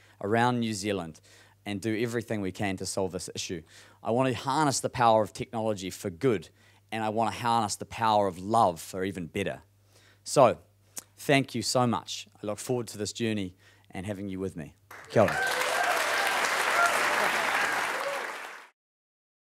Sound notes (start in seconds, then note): 14.8 applauding